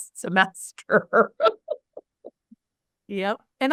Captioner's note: laughs